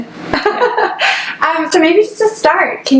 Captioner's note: laughs